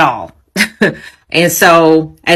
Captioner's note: chuckles